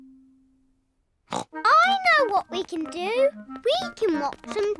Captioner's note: snorts